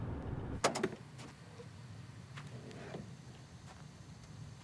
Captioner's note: trunk clattering; insects chirping